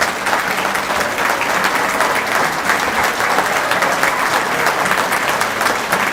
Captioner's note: applause